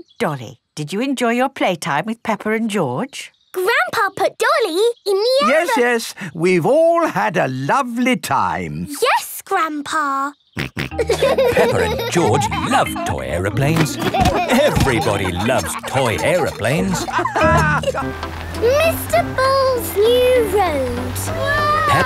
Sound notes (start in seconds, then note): 11.0 laughing; 11.0 snorts